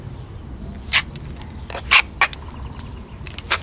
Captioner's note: sanding sound